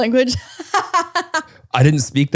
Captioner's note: laughs